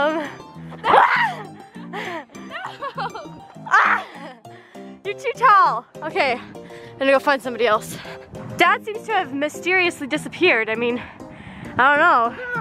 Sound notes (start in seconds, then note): 0.8 screaming